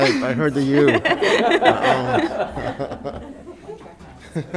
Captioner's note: all laughs